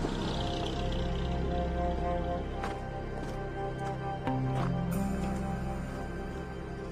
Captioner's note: car rolls